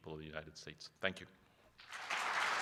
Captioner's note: applause